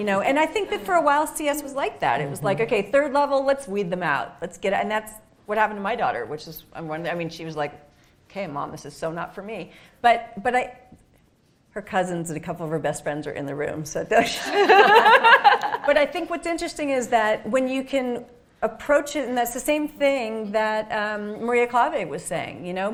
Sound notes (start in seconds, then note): 14.3 laughing